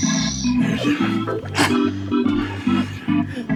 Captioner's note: exhales audibly; bright lighthearted music